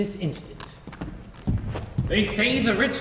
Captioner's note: footsteps exiting